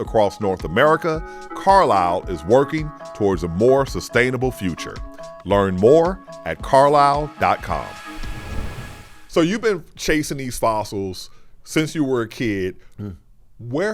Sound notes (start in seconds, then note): 8.3 screen whooshes